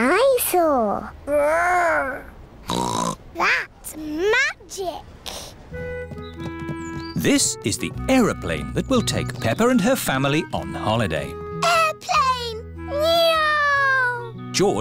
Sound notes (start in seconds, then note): 2.7 snorts